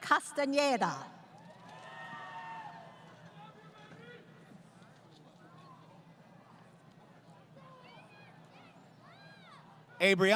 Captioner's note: crowd Cheering